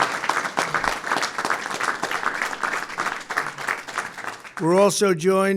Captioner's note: applause